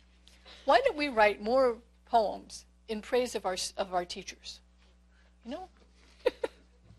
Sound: laugh

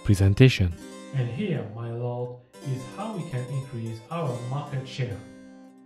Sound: muffled voice

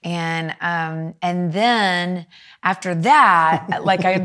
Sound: chuckling

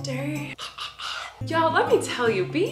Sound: clears throat

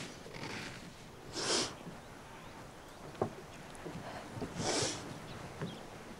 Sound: sniffling

